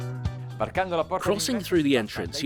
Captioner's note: speaks in foreign language